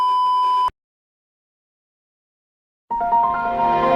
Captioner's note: windows me sound playing